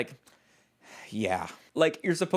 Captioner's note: sighs